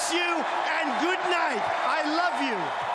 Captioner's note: cheers and Applause